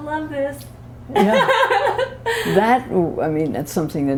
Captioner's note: laughter